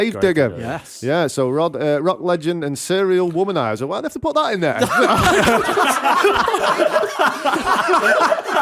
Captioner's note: laughter